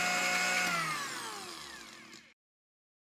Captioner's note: whirring stops